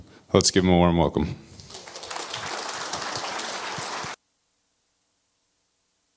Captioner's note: applause